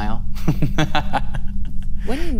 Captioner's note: laughs